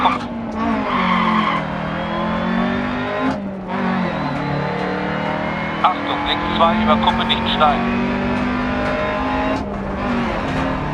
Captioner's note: engine noises and instructions from the co-pilot